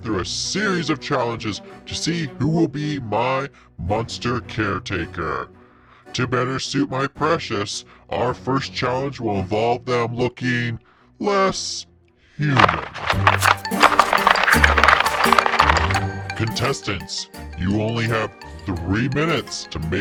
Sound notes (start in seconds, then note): 12.6 paper crunching; 13.2 upbeat music